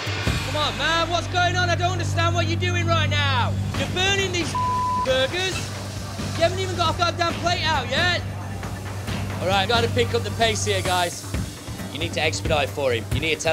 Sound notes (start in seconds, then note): 4.4 beeping